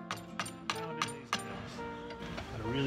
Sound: hammer hitting nail

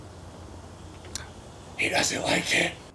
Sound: lip smack

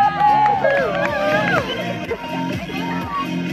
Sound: audience laughs; audience cheers

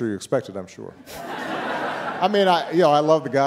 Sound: audience laughing

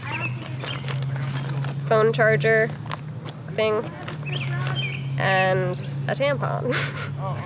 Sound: laughs

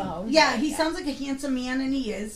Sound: voiceover

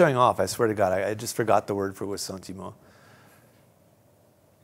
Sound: non-english speech

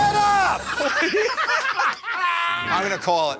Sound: laughter

